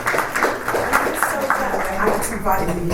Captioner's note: panellists and audience applaud